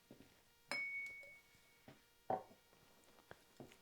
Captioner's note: glass clinks